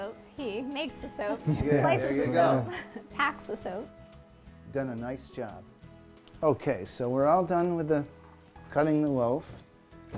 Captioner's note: laughs